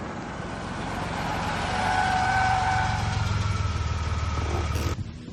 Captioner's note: tire screeching